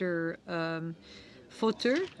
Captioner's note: speaking French